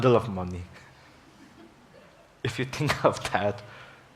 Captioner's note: audience laughs